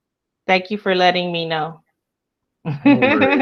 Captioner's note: laughs